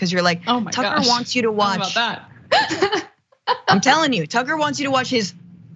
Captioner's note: laugh